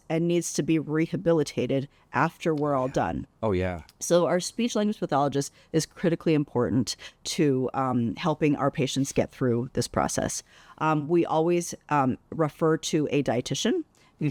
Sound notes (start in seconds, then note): none